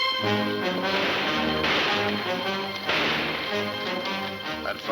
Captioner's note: gunshots banging